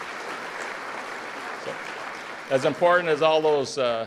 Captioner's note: applause